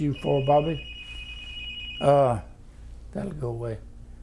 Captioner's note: phone rings in background